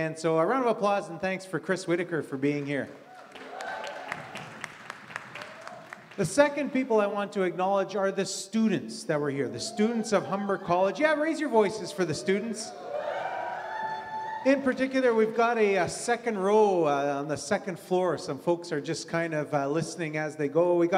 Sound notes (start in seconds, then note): 2.9 audience cheers and applause; 12.7 audience cheers